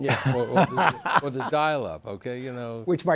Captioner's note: laughter